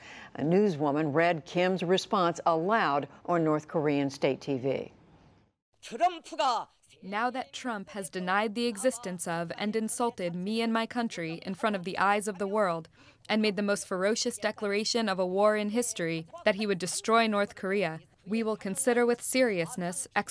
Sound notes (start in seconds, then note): 5.4 through translator